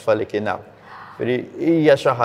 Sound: gasps

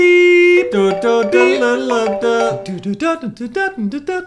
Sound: iPhone ringtone playing; singing a tune

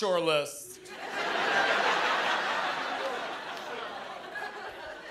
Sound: laughter

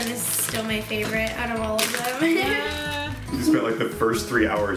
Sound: laughs

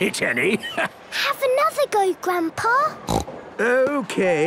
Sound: snorts

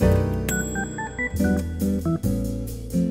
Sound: kitchen timer alarm

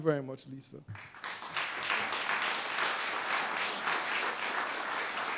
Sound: applause

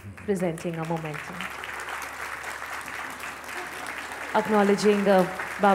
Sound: applause

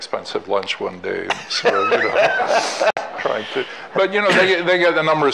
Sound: all laughing

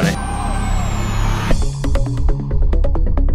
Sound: electric grinder whirring; upbeat techno music

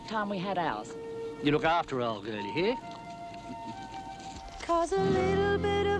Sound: chuckling

